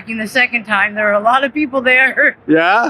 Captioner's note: chuckles